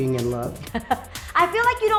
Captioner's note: laughs